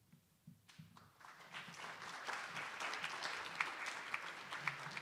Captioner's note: attendees applauding